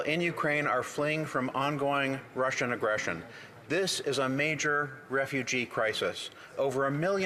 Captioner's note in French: voix de l'interprète